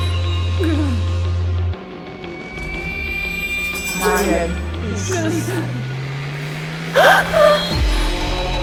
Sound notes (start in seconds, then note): 5.1 Mandarin language; 6.9 Keo gasps in horror